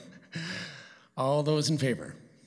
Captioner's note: laughter